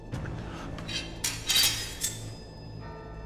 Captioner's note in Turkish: Kılıç çekme sesi